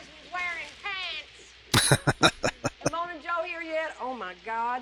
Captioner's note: laughing